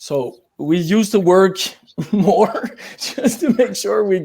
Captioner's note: laughs